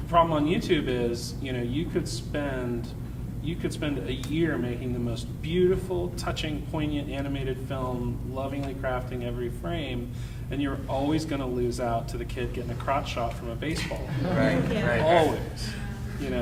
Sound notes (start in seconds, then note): 14.0 panel and audience muttering